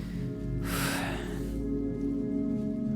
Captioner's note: sighs